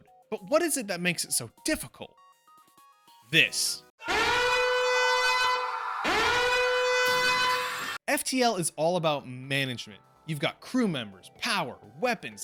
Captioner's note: alarm blaring